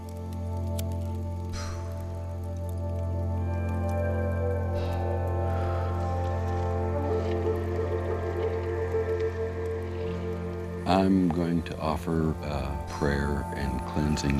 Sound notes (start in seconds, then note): 1.5 puffs; 4.6 exhales; 4.7 puffs